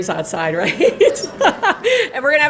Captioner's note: laughter